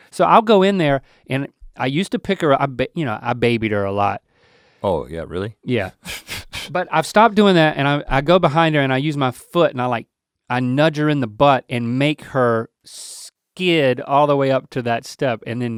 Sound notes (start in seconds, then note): 6.0 chuckling